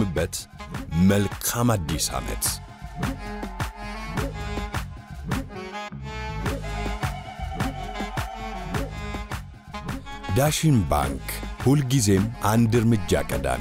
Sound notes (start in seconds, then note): none